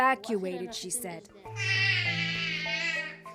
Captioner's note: speaking alternate language